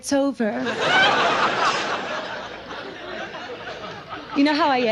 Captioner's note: audience laughs